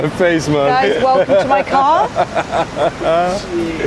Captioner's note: laughing